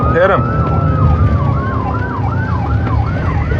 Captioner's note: sirirenens wawaililing